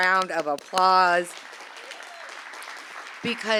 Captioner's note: applause